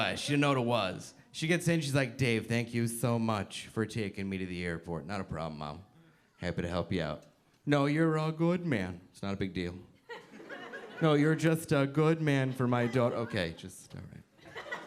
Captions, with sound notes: she know what it was. She gets in she's like, "Dave thank you so much for taking me to the airport." "Not a problem mom, happy to help you out." "No you're a good man." "It's not a big deal." (audience laughing) "No you're just a good man for my daughter." "Okay just all right."